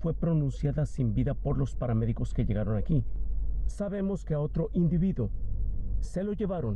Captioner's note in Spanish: habla en ingés